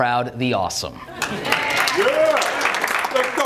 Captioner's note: audience claps